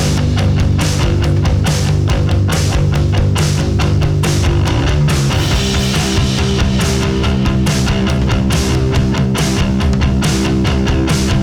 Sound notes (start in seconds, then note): none